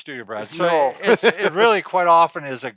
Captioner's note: laughs